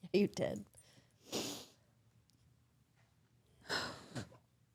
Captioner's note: Liv crying